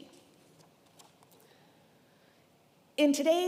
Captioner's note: paper rustling